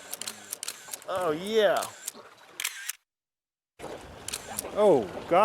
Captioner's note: camera clicking continues